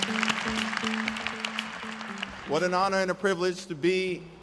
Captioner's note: applause